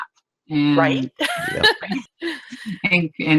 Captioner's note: laughs